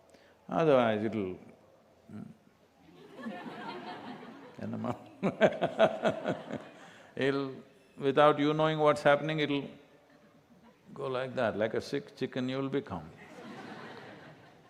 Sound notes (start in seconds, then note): 5.0 laughs; 13.2 laughter